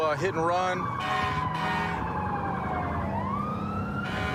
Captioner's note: emt sirens blaring